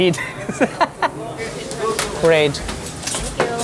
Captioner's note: chef laughs